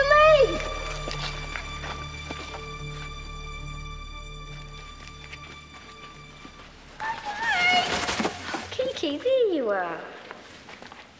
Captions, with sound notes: - Wait for me. (squawks) Kiki, there you are.